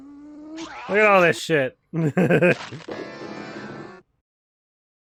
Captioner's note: laughs